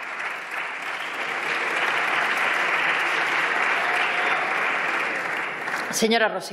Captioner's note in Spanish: Aplausos